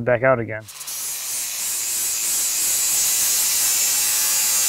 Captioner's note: grinder whirring